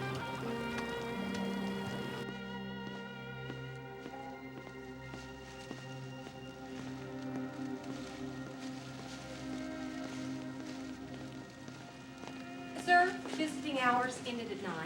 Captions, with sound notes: (footsteps thudding) - Sir, visiting hours ended at nine.